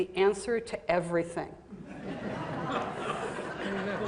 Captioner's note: laughter